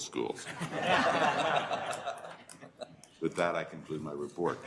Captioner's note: audience laughter